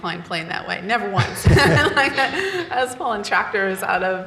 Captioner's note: laughs